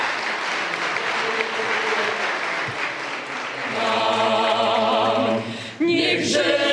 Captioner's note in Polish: oklaski